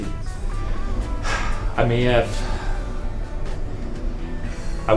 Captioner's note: sighs